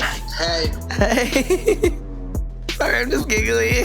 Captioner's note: laughing